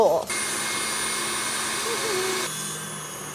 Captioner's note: mixer whirs; hums; mixer whirs